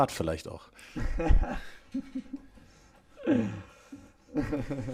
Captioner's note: laughs